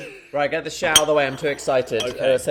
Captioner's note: chuckles; glass clinking